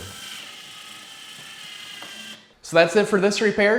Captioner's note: electric drill turning